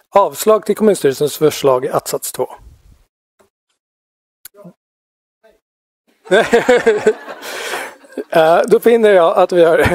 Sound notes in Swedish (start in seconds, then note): 6.3 Skratt